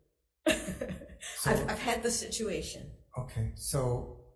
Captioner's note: laughs